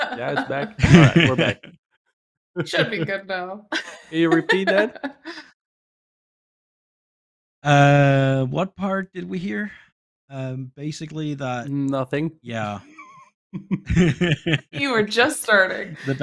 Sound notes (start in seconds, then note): 3.7 laughs; 13.5 laughter